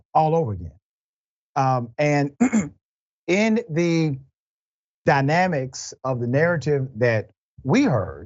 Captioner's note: cough